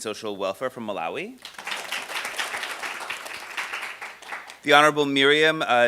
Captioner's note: applause